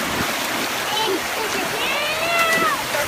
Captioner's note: water splashing